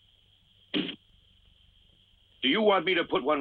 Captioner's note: dart thuds